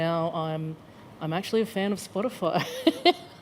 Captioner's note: laughs